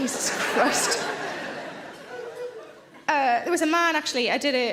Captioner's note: audience laughs